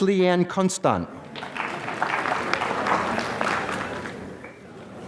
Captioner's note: applause